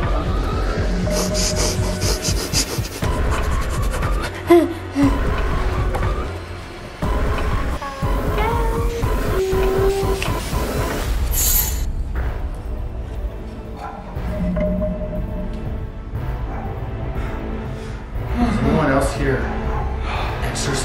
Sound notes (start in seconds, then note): 1.0 heavy breathing; 4.6 scary music; 10.0 static sounds